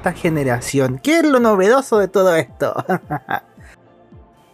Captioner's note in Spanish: risas